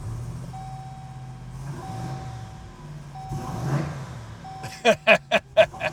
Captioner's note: engine revs; he laughs